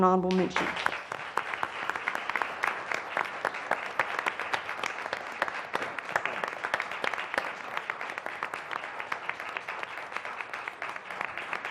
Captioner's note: applause